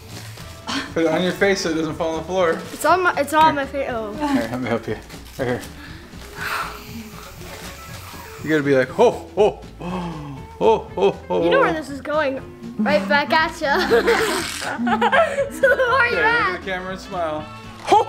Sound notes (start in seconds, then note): 6.4 can spraying; 13.7 boy laughing